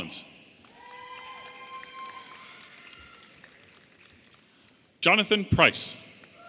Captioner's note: audience applauding and cheering